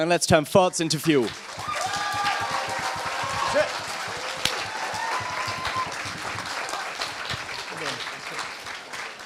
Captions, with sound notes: And let's turn farts into fuel. [APPLAUSE]